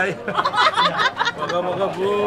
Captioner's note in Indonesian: tertawa